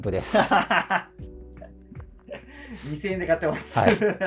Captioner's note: laughing